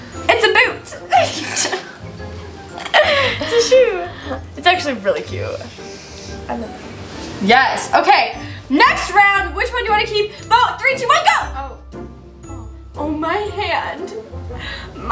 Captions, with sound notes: - It's a boot! (laughter) It's a shoe! It's actually really cute. Yes! Okay! Next round! Which one do I keep? Vote. Three, two, one, go! - Oh. - Oh my hand.